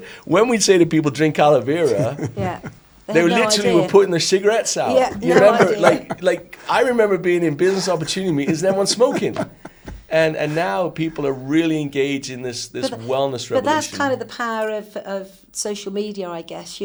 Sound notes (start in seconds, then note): 4.9 all laugh